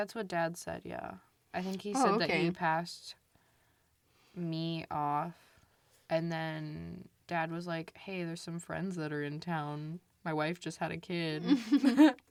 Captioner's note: laughs